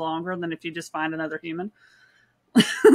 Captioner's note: laughs